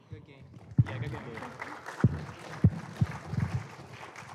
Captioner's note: applause